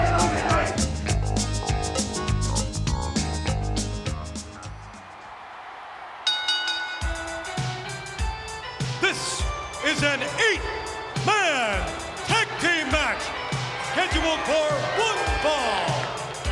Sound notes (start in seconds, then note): 0.0 lively music continues; 5.1 bell ringing; 5.1 crowd cheering; 7.1 upbeat music